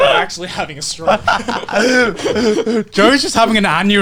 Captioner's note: laughs